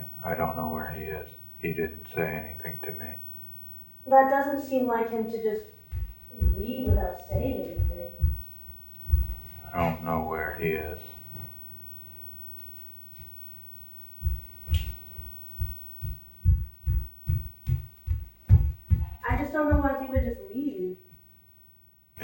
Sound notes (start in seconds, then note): 8.4 footsteps thumping; 13.8 footsteps thumping